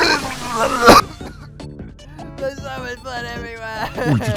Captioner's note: Mr Saturn starts to cry out of shot